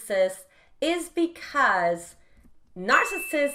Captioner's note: bell chimes